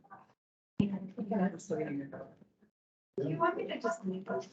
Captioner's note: indistinct chatter